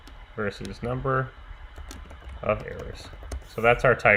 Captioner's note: keyboard clicking